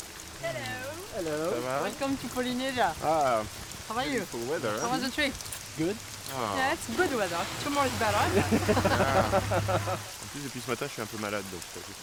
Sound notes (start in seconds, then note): 8.2 laughter; 10.2 speaking French